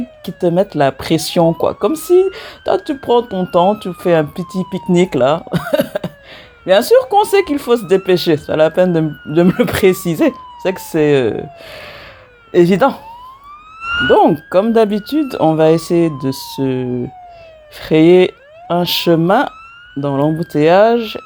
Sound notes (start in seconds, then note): 5.5 laughs